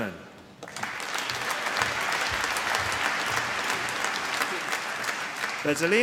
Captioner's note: applause